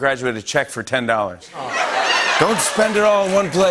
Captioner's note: laughter